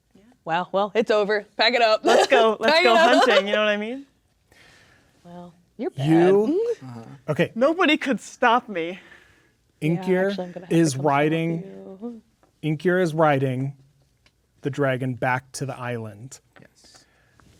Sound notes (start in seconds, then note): 0.1 quietly; 2.0 laughing; 10.7 speaking quietly